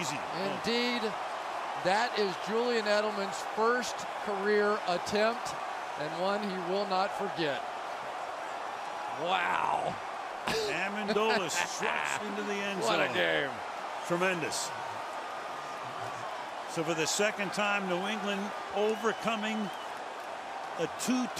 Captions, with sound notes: Easy. Indeed. That is Julian Edelman's first career attempt and one he will not forget. Wow! [laughs] Amendola stretched into the end zone. What a game! Tremendous. So for the second time, New England overcoming